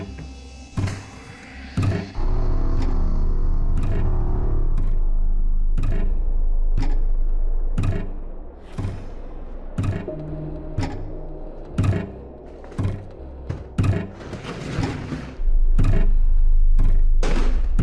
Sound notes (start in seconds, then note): 1.8 soft eerie music; 4.2 object thudding rhythmically; 4.2 soft tense music; 14.3 soft eerie music